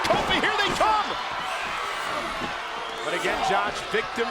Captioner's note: crowd cheering